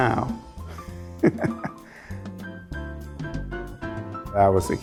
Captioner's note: laughs